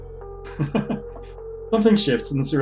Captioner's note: chuckles